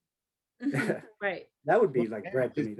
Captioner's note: laughs